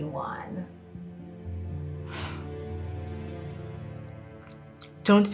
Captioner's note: Krystal sighs